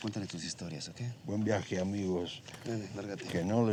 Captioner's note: speaking spanish